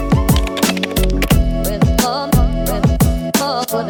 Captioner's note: whimsical music; clicking